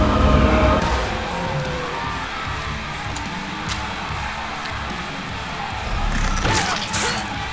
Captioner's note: muffled rock music; people screaming